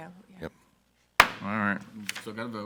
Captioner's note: gavel bangs